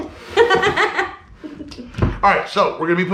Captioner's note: laughing